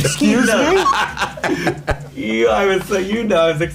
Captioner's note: laughing